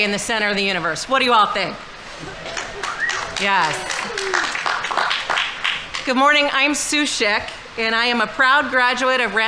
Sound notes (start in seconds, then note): 2.1 audience members cheering; 2.1 audience applauding